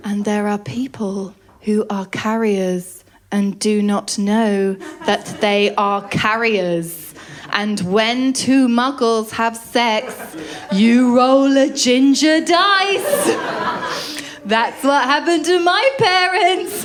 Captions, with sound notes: And there are people who are carriers and do not know that they are carriers and when two muggles have sex, you roll a ginger dice. [LAUGHTER] That’s what happened to my parents.